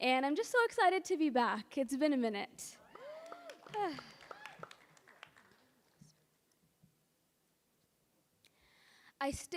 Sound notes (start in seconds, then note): 2.8 audience cheering and applauding